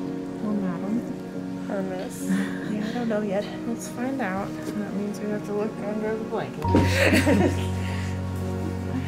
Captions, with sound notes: Or Madam. Or Miss. [Laughter] Yeah I don't know yet. Let's find out. But we have to look under the blanket. [Laughter]